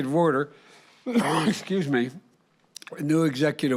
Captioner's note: coughs